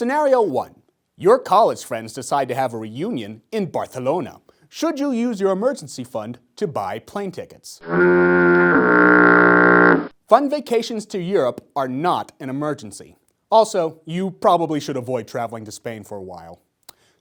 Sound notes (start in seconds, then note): 7.8 foghorn noise